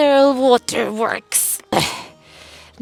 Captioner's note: grunts like an old person